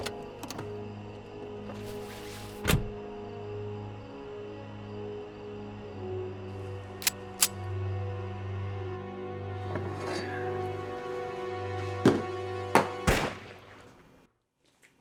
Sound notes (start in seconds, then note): 7.0 gun clicks; 8.6 suspenseful music; 13.1 gun fires